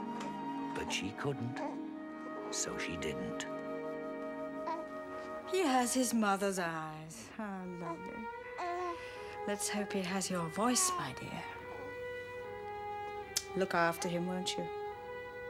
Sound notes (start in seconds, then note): 4.6 baby gurgling; 8.5 baby cooing